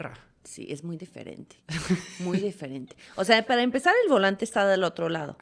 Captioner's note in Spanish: risas